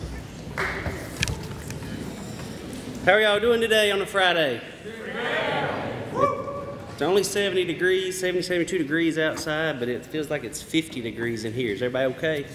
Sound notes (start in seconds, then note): 4.3 audience responds with positive chatter